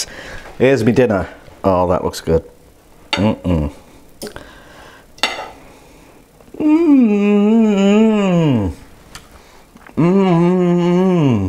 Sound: pleasurable groaning

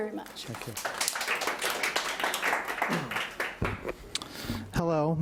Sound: audience applauding

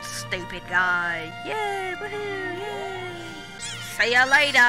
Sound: alien cheering

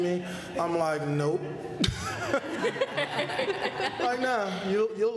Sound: laughter

